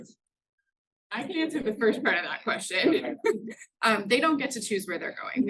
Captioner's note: laughs